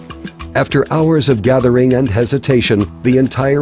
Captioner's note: relaxed electronic music; voiceover